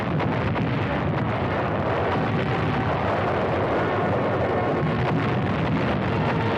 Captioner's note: guns booming